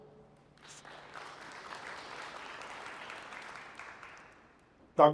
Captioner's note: applause